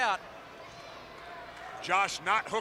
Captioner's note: crowd chatter